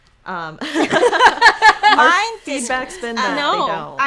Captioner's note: laughing